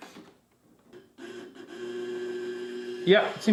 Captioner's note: printer droning